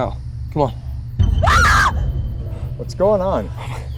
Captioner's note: Shelby screams